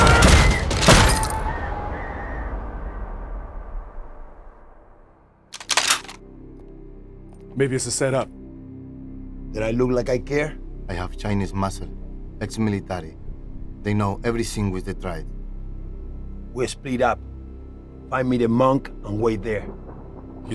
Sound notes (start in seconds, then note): 0.4 gun snaps and fires; 4.8 soft tense music; 5.5 gun snapping